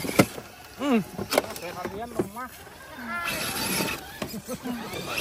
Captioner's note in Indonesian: Tertawa